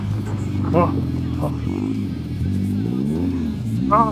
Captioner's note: engine revving; laughing; speaking foreign language; grunting